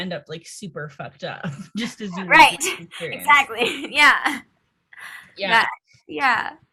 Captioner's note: laughs